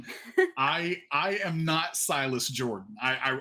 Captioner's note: laughs